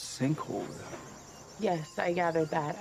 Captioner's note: sighs